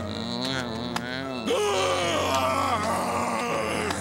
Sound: screams

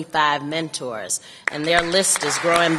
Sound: applause

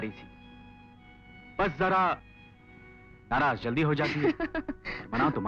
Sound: laughs

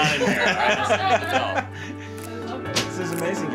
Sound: both laughing

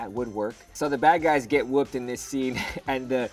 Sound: chuckles

